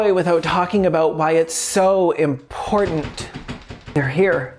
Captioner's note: door handle rattles